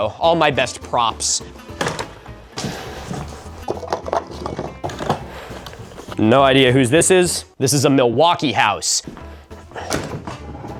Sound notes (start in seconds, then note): 3.0 more clattering